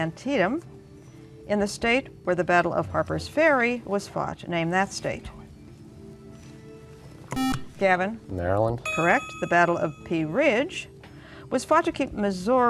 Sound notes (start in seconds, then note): 7.3 beep